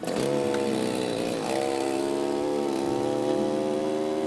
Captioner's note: chainsaw buzzing